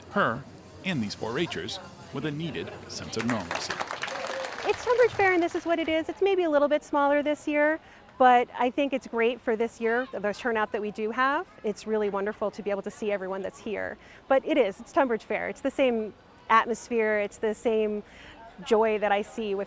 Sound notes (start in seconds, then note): 2.9 audience applause